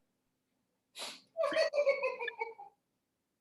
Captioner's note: more giggling